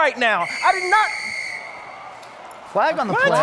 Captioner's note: whistle